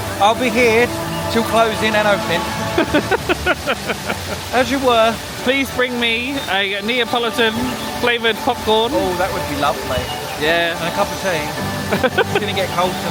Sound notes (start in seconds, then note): 2.7 laughing; 11.9 laughing